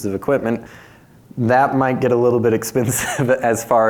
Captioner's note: chuckles